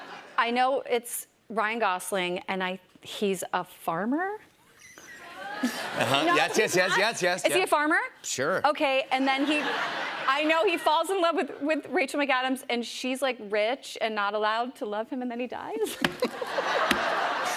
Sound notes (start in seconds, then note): 0.0 laughter; 5.3 laughter; 9.2 laughter; 15.9 laughter